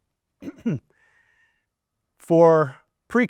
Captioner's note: coughing